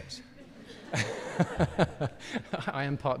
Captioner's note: audience laughing; laughing